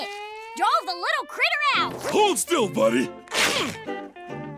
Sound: grunting

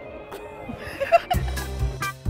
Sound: laughing; instrumental music

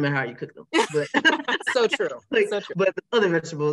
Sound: laughing

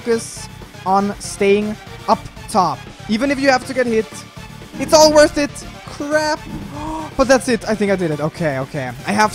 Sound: gasps

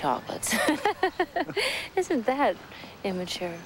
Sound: laughs

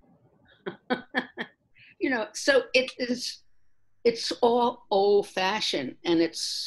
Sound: laughs

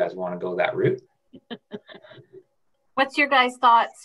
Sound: laughing

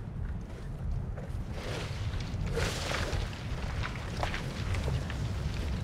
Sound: wind blowing

